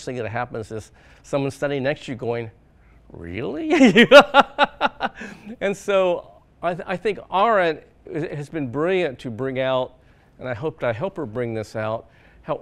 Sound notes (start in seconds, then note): 3.7 laughs